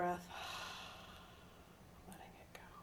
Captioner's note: sighing